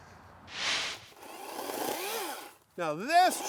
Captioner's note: saw whirring